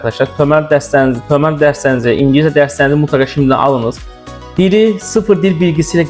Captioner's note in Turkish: türkçe